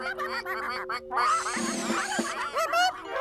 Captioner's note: ducks Quacking